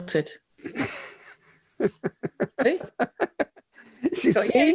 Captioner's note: laughing